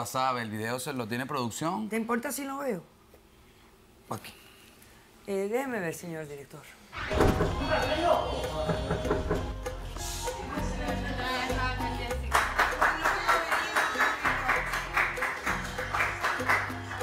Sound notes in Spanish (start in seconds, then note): 8.6 Toques en la puerta; 12.2 Aplausos